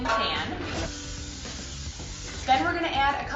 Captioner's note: aerosol spraying